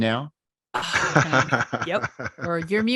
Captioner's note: all laughing